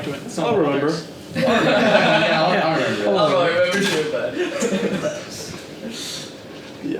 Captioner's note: all laughing